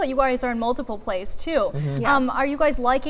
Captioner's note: laughing